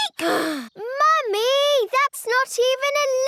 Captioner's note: sighs